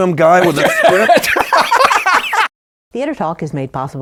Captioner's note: laughter